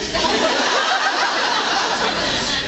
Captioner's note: laughs